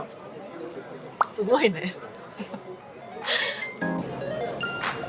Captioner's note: laughs